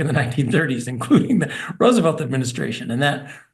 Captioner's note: laugh